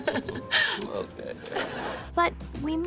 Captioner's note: laughs